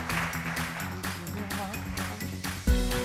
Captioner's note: applause